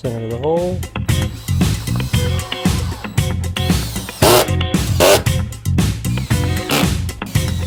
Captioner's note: Dremmel buzzing; upbeat music